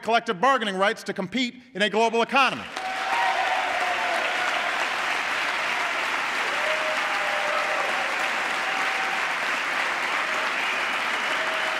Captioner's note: applause